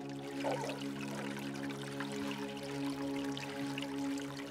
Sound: water sloshing

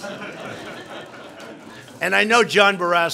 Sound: laughter

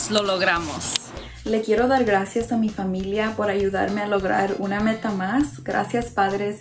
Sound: speaks in foreign language

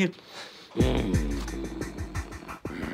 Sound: growling

